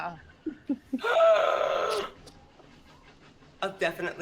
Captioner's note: gasps